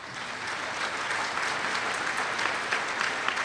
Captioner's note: applause